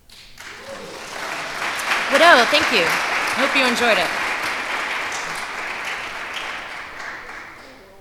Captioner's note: applause